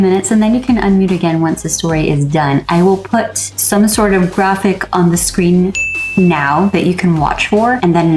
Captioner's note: ding sfx